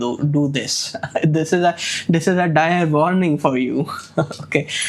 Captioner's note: chuckles; chuckles